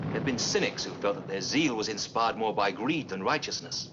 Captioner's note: thunderclap